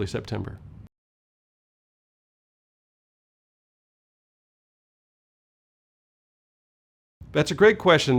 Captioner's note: no audio